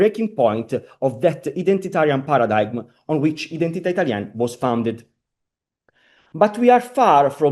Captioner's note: italian